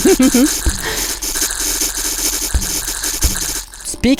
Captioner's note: chuckles; flames firing